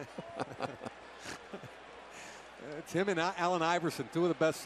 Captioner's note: laughter